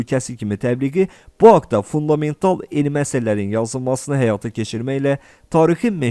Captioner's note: Turkish